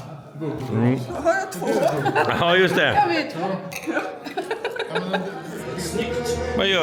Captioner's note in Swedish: skratt